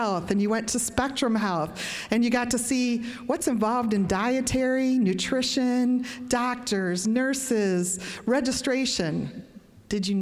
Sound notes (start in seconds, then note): none